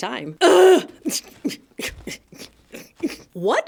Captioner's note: witcheficent grunting!